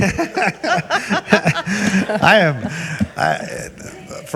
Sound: all giggling

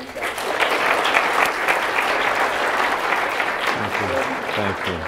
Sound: applause

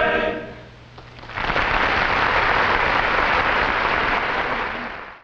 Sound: audience applauding

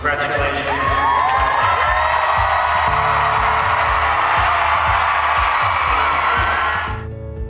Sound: clapping and cheering

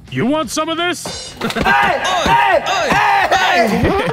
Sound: bang

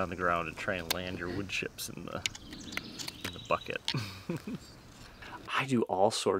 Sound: laughs

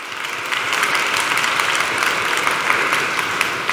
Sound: applause

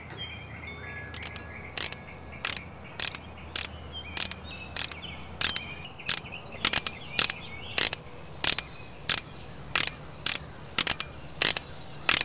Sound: ratcheting

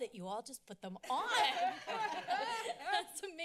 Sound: laughs

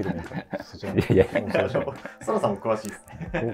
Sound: laughing

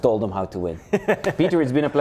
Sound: laughs

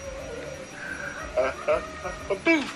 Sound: chuckles

